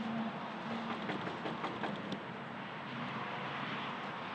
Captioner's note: knocking